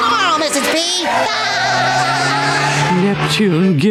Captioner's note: laughing